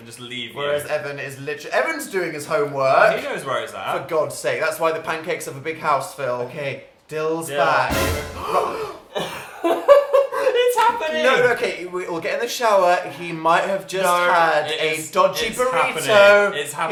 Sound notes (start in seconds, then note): 7.9 startling sound effect; 8.3 both gasp; 8.4 laughs; 10.8 stuttering